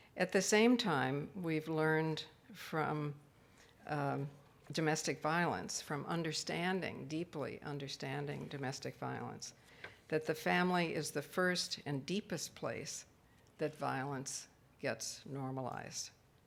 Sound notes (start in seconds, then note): none